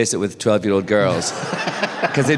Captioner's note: laughter